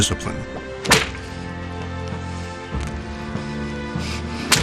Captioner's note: whip snapping